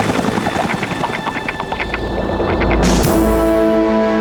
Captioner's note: helicopter flying